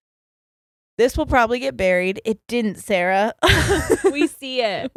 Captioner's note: giggles